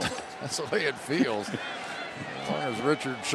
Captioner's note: chuckles